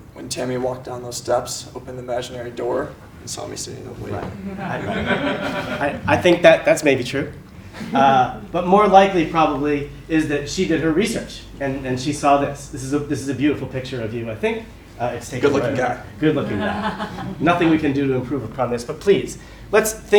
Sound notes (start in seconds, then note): 4.2 laugh